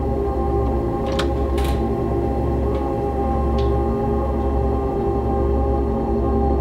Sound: door rattles; latch clicks

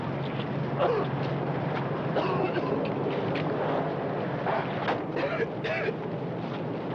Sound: Roy coughing; Sam grunting

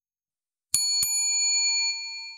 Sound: bell ringing

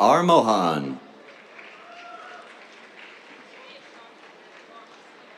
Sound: cheers, applause

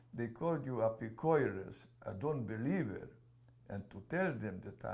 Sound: non-english

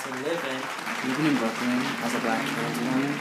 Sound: applause

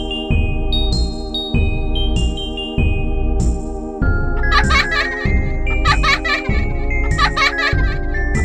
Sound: child Laughing

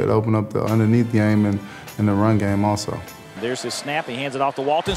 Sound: voiceover

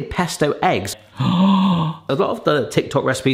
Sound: gasping

